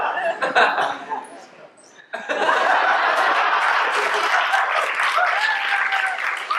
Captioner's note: laughter and cheers